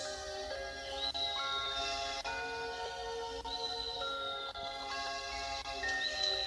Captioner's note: engines snoring